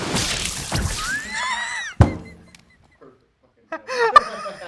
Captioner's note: laughs